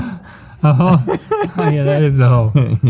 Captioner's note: laughing